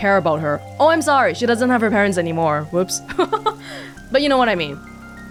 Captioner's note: chuckles